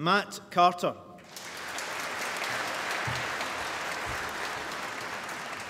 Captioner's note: applause